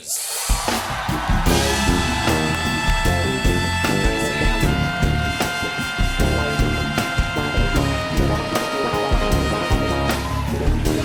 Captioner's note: applause